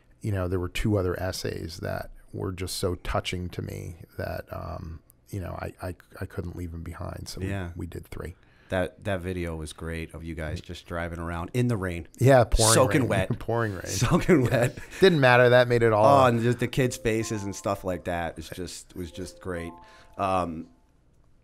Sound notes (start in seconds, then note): 14.4 chuckle